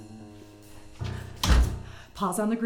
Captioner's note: door closes